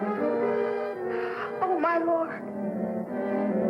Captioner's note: gasp